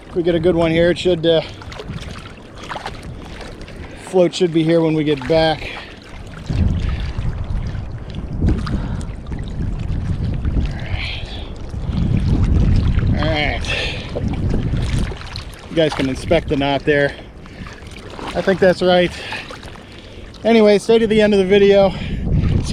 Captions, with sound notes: If we get a good one here, it should... The float should be here when we get back. (water rippling) (wind whooshing) All right. All right. You guys can inspect the knot there. I think that's right. Anyway, stay to the end of the video,